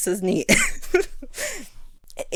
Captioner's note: laughs